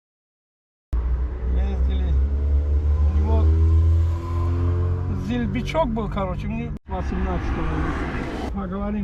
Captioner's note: small talk